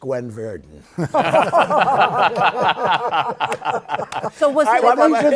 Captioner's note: laughter